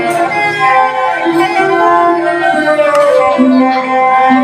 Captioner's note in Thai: ปรบมือ